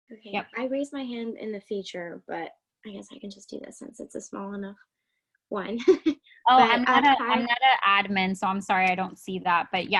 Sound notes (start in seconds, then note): 6.6 laughing